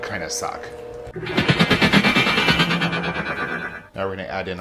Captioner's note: rapid vibrating